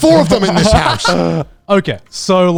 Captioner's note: laughs